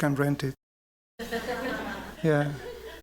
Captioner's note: laughter